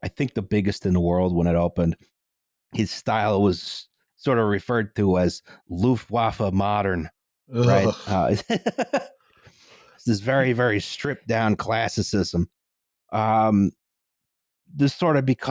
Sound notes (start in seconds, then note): 7.6 laughs